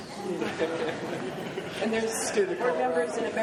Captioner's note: crowd chatter; laughing